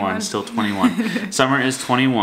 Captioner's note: laughs